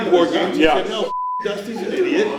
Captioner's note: beep